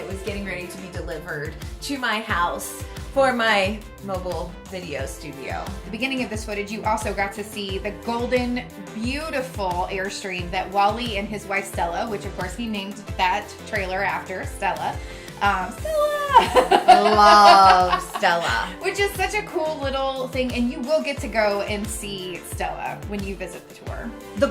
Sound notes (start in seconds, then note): 15.8 laughs